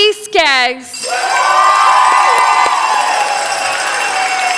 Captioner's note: cheering, applause